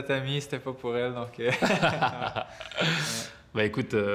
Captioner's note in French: rires